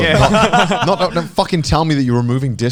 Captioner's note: all laughing